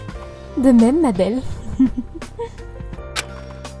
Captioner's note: laugh